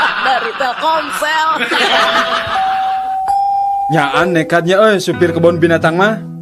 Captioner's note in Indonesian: tertawa